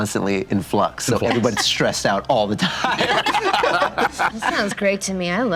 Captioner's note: group laughter